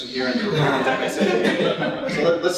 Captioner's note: laughter